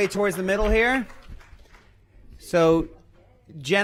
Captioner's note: applause